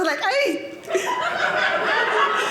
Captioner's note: audience laughing; latina accent